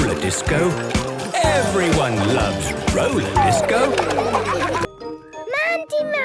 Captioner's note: laughter